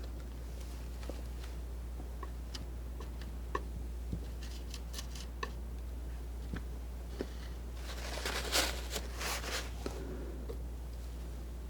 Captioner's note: scratching